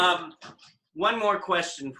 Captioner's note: laughing